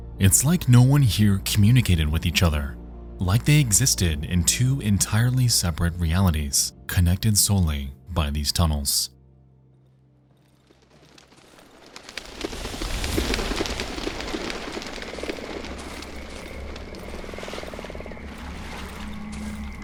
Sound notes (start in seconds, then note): 10.3 wings flapping; 10.7 footsteps thudding